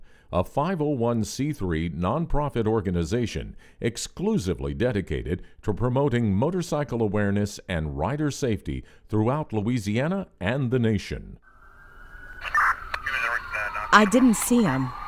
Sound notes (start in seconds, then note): 11.5 police sirens alarming; 12.5 walkie talkie communicating